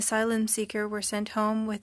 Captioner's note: speaking French